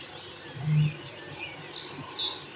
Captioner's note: birds chirping